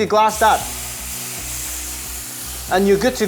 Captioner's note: sizzling sound